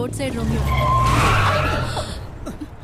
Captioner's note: Brakes squeal